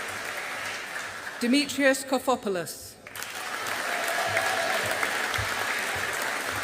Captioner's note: audience applauding